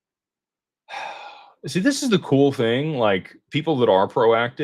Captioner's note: sighs and gasps